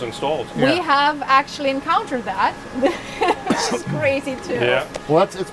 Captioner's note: laughs